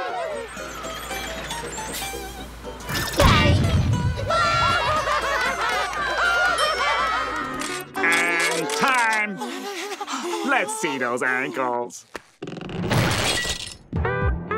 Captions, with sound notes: [cheering, laughing] And time. Let's see those ankles.